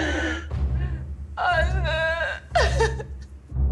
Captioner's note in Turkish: Ağlama sesi